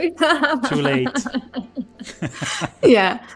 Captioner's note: laughter; laughs